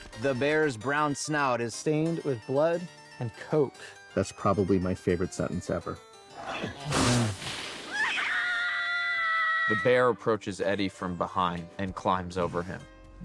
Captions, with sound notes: "The bears brown snout..." "...is stained with blood and coke." "That's probably my favorite sentence ever." (SNEEZES) (BOTH SCREAMING) "The bear approaches Eddie from behind and climbs over him.